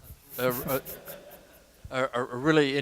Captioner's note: laughter